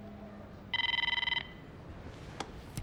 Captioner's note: phone ringing